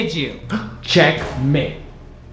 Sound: gasping

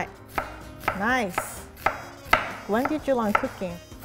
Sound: speaks in foreign language; knife tapping

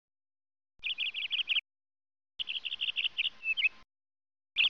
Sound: birds chirping

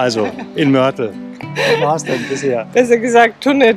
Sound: laughs

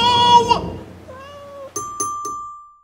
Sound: cat meowing; ding; ding, ding, ding

